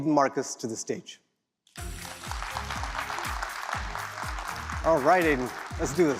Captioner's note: applause